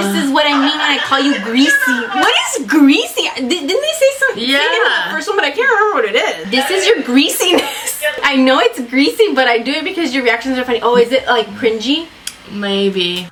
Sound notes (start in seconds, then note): 6.0 laughs